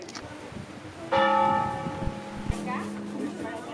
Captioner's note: bell